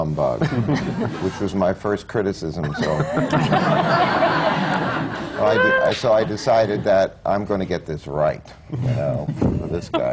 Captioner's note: laughter; laughter